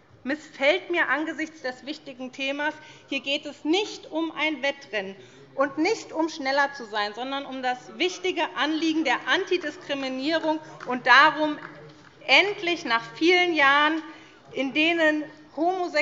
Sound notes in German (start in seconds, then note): 9.5 Beifall